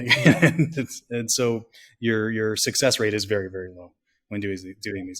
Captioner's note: laughs